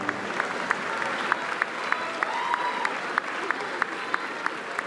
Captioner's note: applause